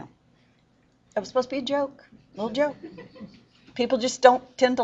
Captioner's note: laughter